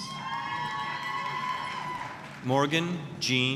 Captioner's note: applause, cheering